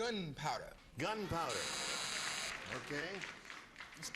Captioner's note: buzzer sounds